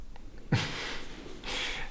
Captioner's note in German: Leises Lachen